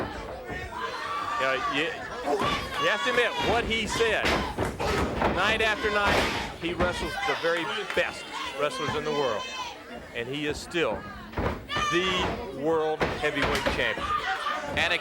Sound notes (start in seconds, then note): 0.2 footsteps plodding; 3.3 blows thudding; 6.1 body thudding